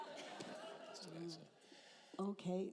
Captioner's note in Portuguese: risos da plateia